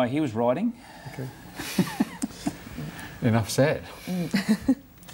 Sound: laughs

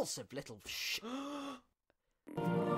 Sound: gasp

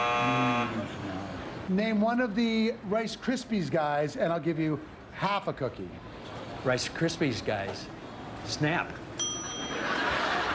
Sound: buzzer

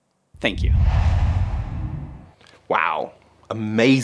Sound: logo swooshes

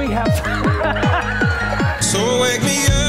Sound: laughing; fast-paced music; laughs

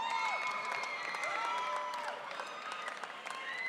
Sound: audience cheering

